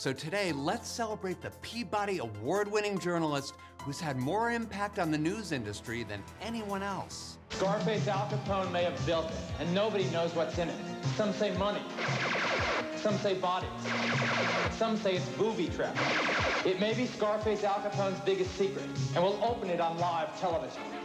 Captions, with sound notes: so, today, let's celebrate the Peabody Award-winning journalist who's had more impact on the news industry than anyone else. -"Scarface" Al Capone may have built it, and nobody knows what's in it. Some say money. [ Electronic gunfire ] Some say bodies. [Electronic gunfire] Some say it's booby-trapped. [ Electronic gunfire ] It may be Scarface Al Capone's biggest secret, and we'll open it on live television.